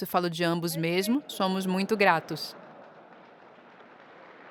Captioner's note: audience laughing